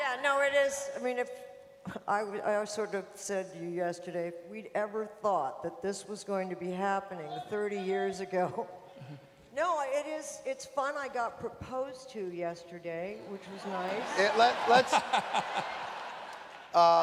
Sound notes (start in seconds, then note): 13.6 laughter; 15.4 laughs